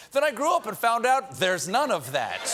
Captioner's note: laughter